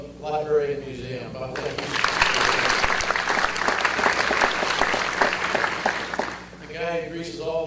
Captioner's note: audience applause